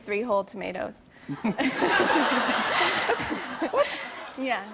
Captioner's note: laughter